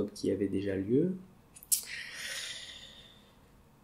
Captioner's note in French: soupir